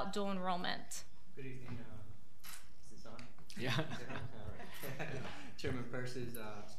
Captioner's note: laughing